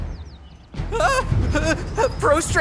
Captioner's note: squeals; stuttering